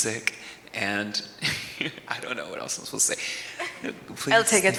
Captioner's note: chuckles